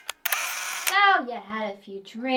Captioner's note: camera shutter clicks